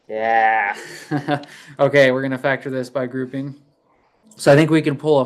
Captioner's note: laughs